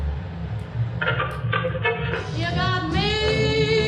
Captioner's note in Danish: radio knitrende